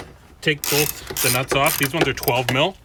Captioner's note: ratchet clicking